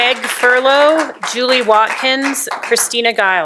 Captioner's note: applause